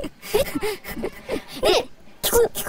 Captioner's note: laughing